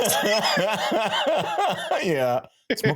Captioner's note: laughing